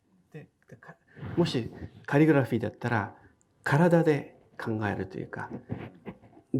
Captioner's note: speaking in foreign language